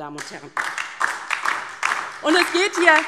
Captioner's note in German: Beifall DIE LINKE und vereinzelt SPD